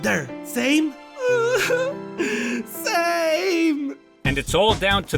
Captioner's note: crying